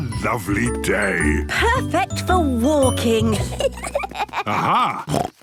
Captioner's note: children giggling; snorts